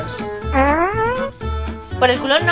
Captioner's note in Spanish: sonido de pedo